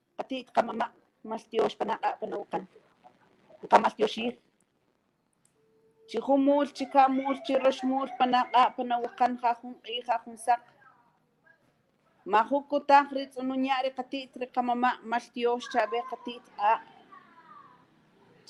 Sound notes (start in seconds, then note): 5.7 speaking Mayan language